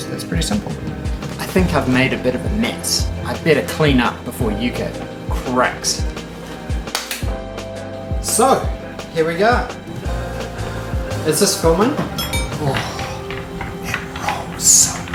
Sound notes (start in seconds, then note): 6.7 clap